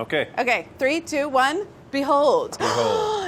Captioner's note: gasps